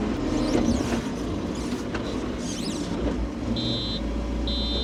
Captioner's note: telehandler whirring